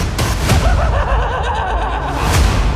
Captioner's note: pennywise laughs maniacally